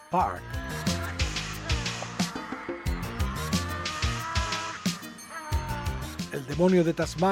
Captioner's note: devil's sound